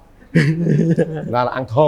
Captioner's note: laughs